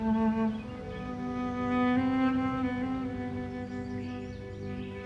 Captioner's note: birds chirping